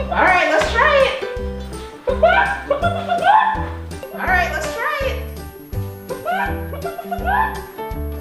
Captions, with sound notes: - Alright, let's try it. (chicken sounds) Alright, let's try it.